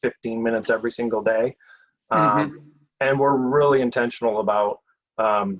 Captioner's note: chuckles